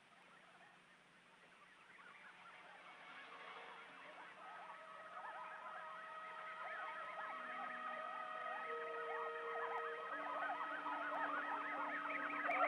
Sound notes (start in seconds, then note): 4.4 suspenseful music; 4.5 aliens chattering